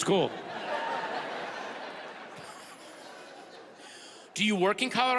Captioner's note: audience laughs